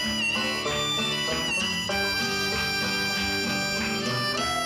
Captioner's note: audience clapping